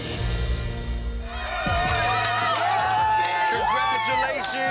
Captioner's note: crowd cheers